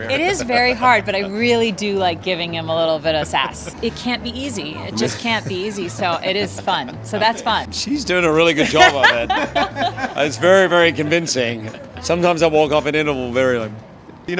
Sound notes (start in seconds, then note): 9.2 Sutton and Paul laughing